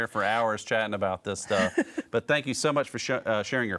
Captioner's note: laughs